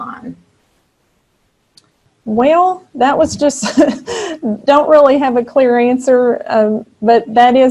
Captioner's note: chuckling